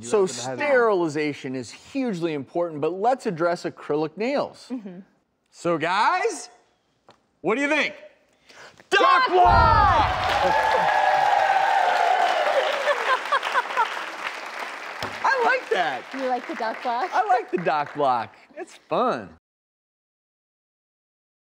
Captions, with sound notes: So sterilization is hugely important, but let's address acrylic nails. So guys, what do you think? Doc block! (audience cheers) (clapping) I like that. You like the Doc block? I like the Doc block. It's fun.